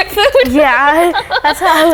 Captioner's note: laughs